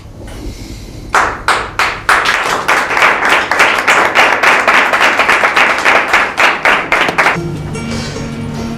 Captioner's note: clapping hands